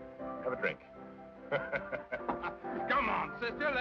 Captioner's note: chuckles